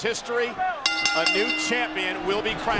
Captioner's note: bell ringing